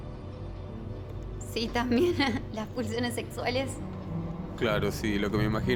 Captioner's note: uncomfertable laughter